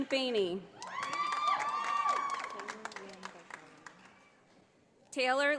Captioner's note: audience applauding